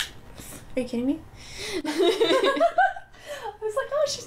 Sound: laughter

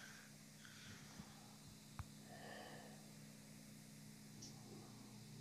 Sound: Masked Clone breathes

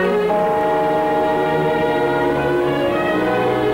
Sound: bells ringing

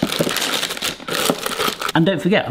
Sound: bag rustling

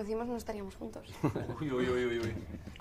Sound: laughs

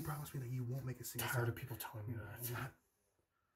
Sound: whispering

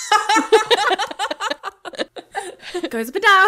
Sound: both laughing

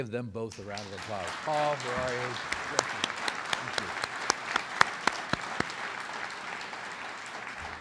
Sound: audience applauds

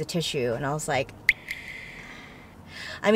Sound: water drips

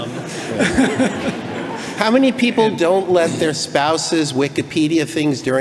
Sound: laughing

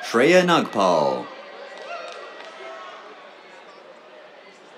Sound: applause

